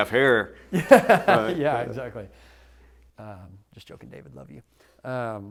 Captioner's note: laughter